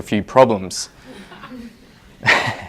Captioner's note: audience member scoffs; laughs